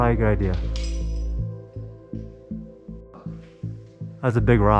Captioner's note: more rocks clatter